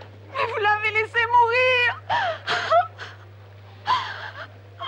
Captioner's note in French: pleurant